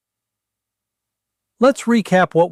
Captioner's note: pause